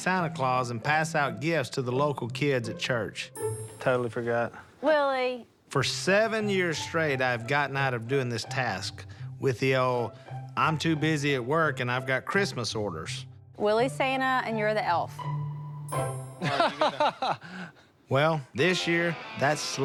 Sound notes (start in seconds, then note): 16.4 laughs